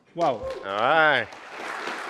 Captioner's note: applause